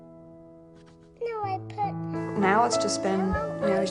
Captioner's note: child talking